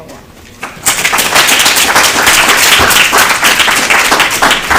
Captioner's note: applause